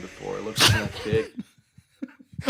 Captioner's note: all laughing